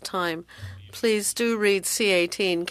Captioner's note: speaking French